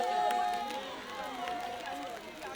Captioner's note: indistinct chatter